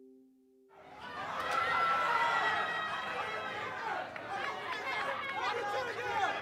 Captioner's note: fans cheering and shouting